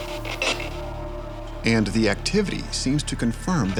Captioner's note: voiceover